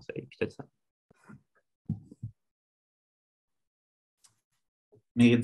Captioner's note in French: silence